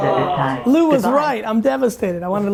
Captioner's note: group groans